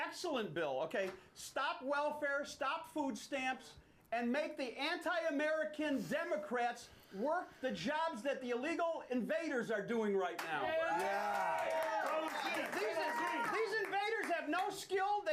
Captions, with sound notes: - YEAH, AND THIS IS A GREAT BILL, AN EXCELLENT BILL, OK. STOP WELFARE, STOP FOOD STAMPS AND MAKE THE ANTI-AMERICAN DEMOCRATS WORK THE JOBS THAT THE ILLEGAL INVADERS ARE DOING RIGHT NOW. [AUDIENCE CHEERING]